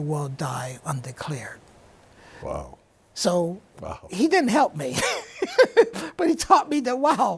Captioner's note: laughs